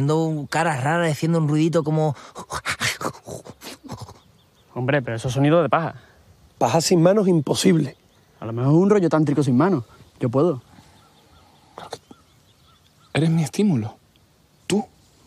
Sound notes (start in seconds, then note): 2.8 he growls